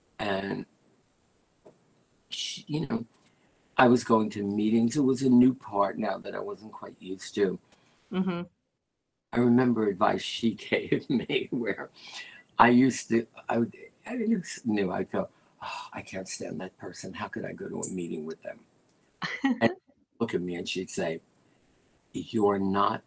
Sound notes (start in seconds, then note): 10.7 laughter